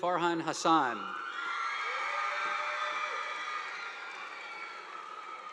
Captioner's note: audience applauding